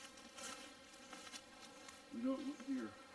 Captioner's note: twigs snapping